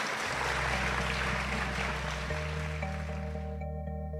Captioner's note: applause